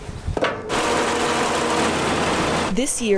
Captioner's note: motor whirring